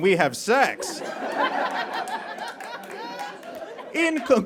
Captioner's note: audience laughs